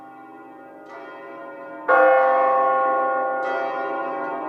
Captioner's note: bells chiming